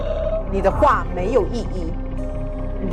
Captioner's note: Mandarin language